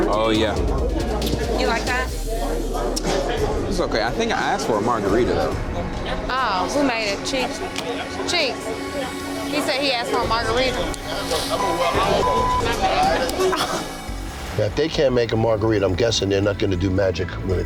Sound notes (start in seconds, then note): 11.5 beep; 13.8 woman scoffing